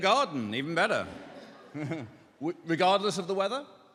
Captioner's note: laughter